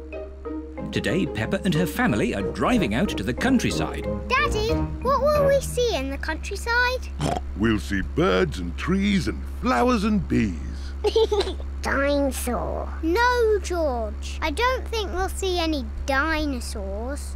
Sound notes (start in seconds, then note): 7.1 snorts; 11.0 laughs